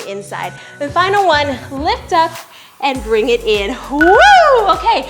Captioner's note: wails